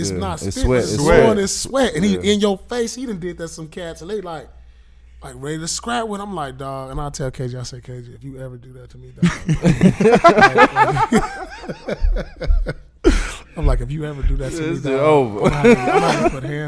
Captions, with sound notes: but it's not spit, he's blowin' his sweat. And he in yo face, and he done did that to some cats, and they like ready to scrap with him. I'm like dawg, and I'll tell KG, I said KG, if you ever do that to me again. (laughing) I'm like if you ever do that to me, dawg. - That shit over.